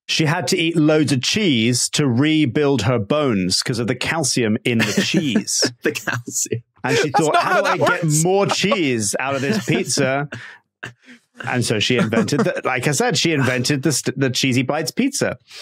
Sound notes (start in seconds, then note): 6.8 chuckles